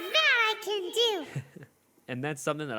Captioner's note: laugh